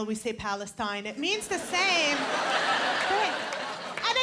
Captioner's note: laughter